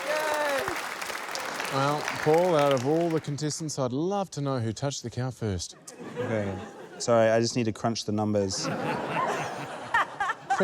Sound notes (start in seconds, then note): 5.8 laughter; 8.5 laughter